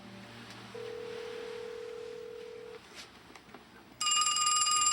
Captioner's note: phone ringing